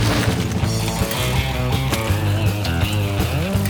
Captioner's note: energetic guitar music continues; bikes whooshing